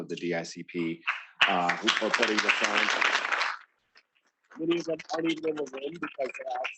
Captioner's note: students clapping